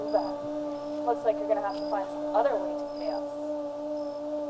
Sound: phone buzzing

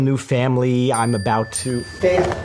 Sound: phone dings

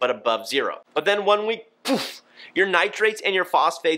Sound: vocalizes

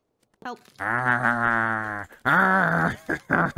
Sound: growling

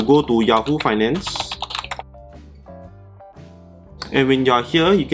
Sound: keyboard clacking

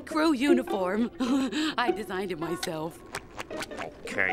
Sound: chuckles

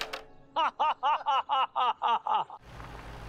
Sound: laughing

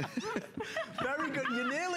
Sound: laughter

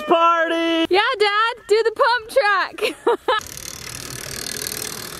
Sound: laughs

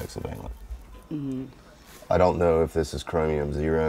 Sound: murmurs

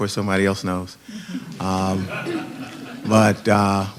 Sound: laughter

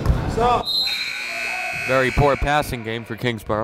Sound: timer buzzes

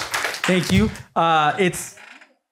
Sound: applause

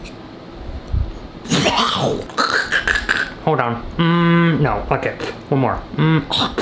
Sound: spitting; spitting

